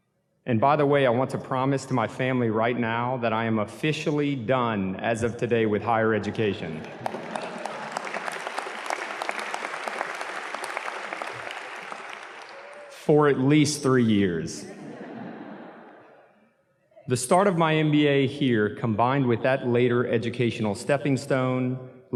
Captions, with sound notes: And by the way, I want to promise to my family right now, that I am officially done as of today with higher education. (audience claps) For at least three years. (audience laughs) The start of my MBA here, combined with that later educational stepping stone,